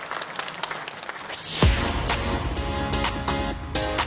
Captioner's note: applause